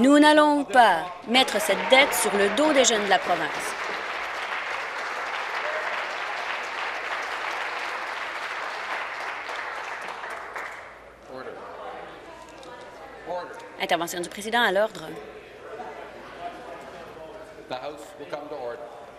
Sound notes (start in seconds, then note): 6.4 applause